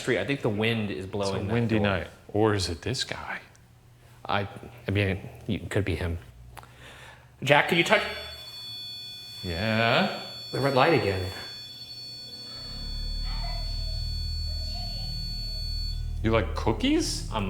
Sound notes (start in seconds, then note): 8.6 device beeping; 11.4 device beeping